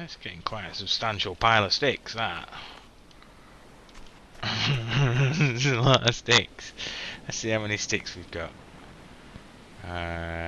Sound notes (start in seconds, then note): 4.4 laughs